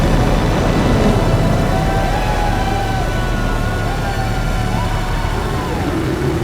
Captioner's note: cheering